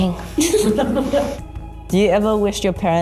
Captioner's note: multiple people laughing